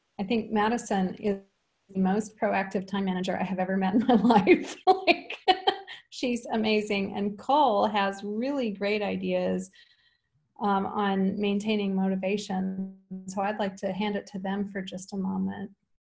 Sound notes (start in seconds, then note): 5.5 laughs